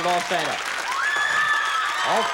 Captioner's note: audience applause and screaming